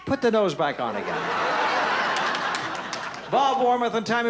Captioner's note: laughter